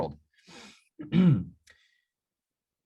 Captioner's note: little throat clear